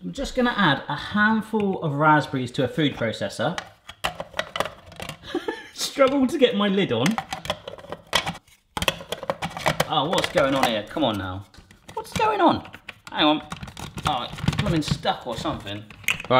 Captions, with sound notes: I'm just gonna add a handful of raspberries to a food processor. (lid clattering) (laughs) Struggle to get my lid on. (lid clattering) Oh, what's goin' on here? Come on now. What's goin' on? Hang on. Oh. Somethin's stuck or somethin'.